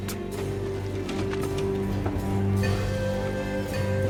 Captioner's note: ore bucket rattles